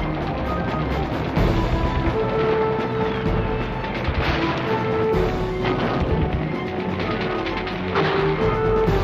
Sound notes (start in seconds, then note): 3.4 guns firing